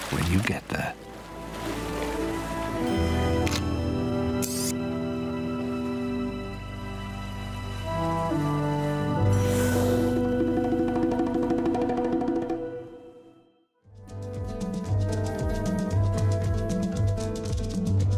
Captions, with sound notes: when you get there. (gentle bright music) (camera shutter clicking) (light adventurous music)